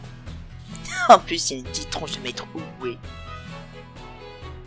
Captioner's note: small laugh